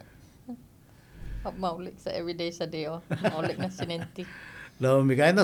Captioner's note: laughing